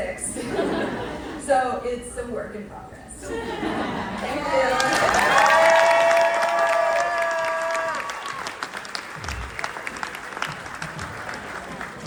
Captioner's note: applause